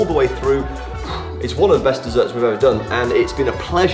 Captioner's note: pants